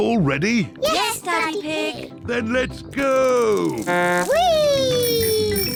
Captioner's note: blows horn